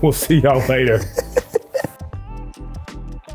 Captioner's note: laughs; upbeat music